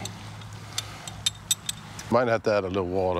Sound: glass tinkling

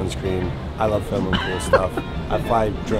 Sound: laughing

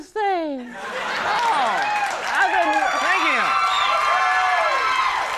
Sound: audience laughing; audience applauding and cheering

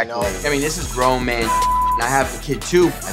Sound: beep

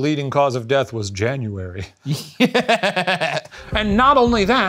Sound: chuckles; laughing

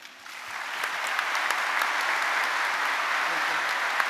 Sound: audience applauding

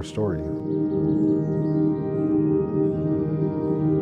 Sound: birdsong

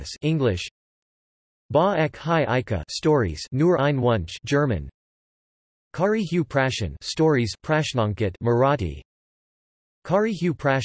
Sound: German

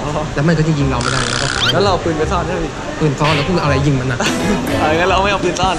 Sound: hahaha

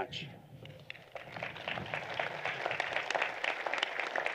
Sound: applause

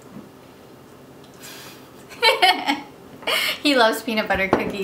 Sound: laughing

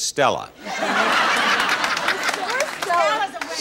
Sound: audience laughing

